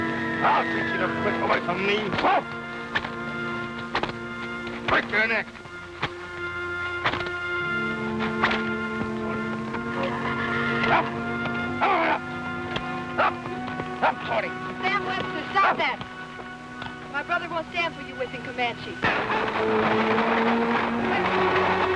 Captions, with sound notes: I'll teach you to get away me. (man shouting) - Sam Webster, stop that. My brother won't stand for you whipping Comanche. (intense music)